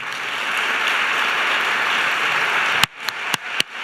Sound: applause

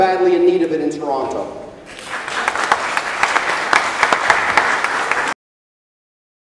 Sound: applause

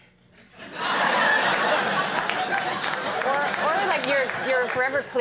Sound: audience laughing

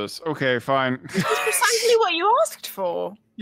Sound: laughs

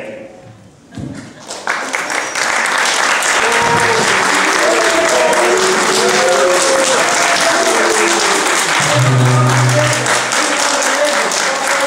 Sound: applause

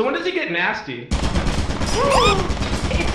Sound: turret engages; turret fires; laughs; yelps

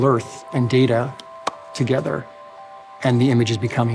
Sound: claps

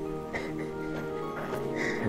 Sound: laught

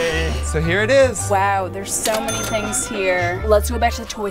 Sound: cash register dinging

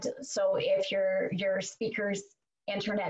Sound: none

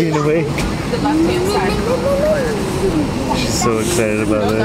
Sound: giggling

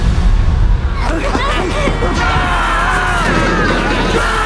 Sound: all screaming

